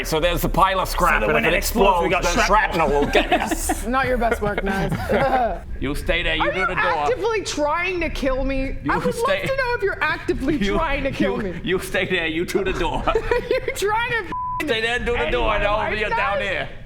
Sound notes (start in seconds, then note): 13.1 contagious corpsing